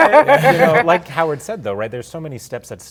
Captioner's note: laughter